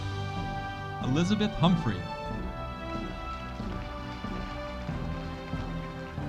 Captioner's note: audience applauding